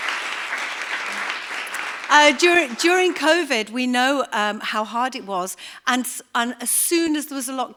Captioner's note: applause